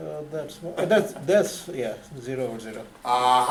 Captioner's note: voiceover